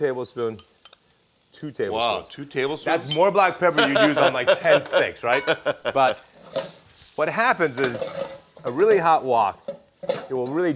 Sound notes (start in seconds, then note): 3.7 laughs